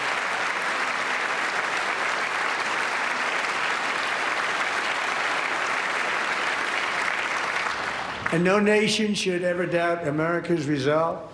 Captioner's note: applause